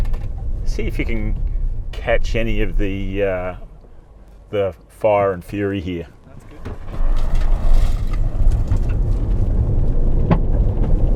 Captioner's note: engine revs